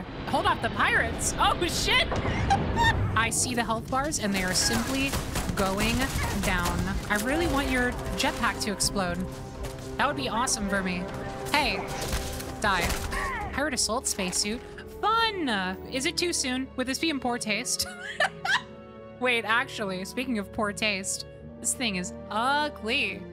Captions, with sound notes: Hold off the pirates? Oh, shit! I see the health bars, and they are simply going down. I really want your jetpack to explode. That would be awesome for me. Hey! Die. Pirate assault spacesuit? Fun! Is it too soon? Would this be in poor taste? [Laughter] Wait, actually, speaking of poor taste... this thing is ugly!